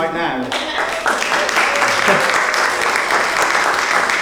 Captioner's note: audience claps